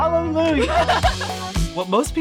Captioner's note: laughs